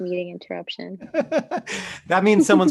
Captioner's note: laughing